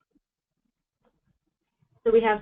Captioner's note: pause